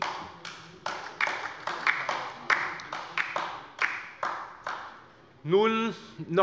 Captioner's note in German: Beifall bei der LINKEN